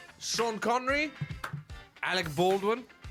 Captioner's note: clap